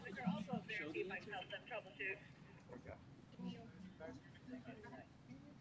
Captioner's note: chattering